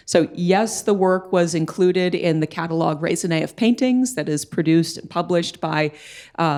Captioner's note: none